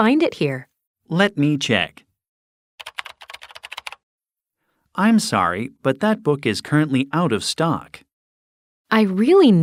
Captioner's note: typing sound